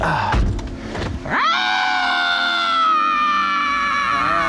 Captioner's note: deep exhale; choking sound; screams